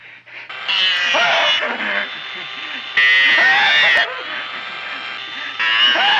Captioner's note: drill droning; Wilbur screaming